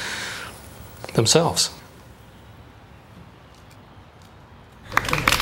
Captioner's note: guests applauding